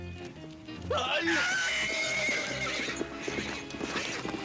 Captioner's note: screaming, horse neighing